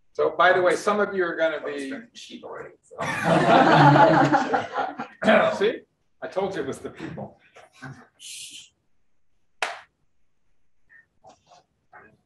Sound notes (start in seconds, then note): 3.0 room laughs